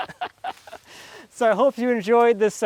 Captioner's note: laughs